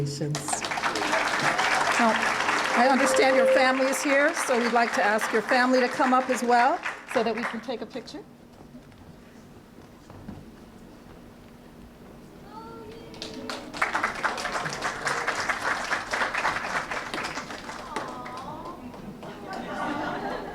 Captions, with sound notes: [APPLAUSE] Now I understand your family is here, so we'd like to ask your family to come up as well so that we can take a picture. [APPLAUSE]